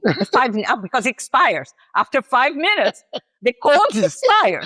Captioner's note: laughs